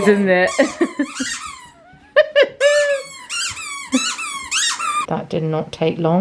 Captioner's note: squeaking; laughs